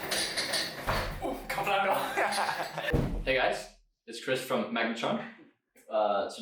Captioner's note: Danish